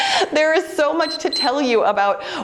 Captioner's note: timer beeps